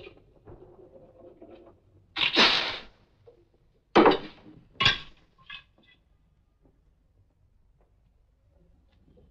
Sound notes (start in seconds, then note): 2.2 spitting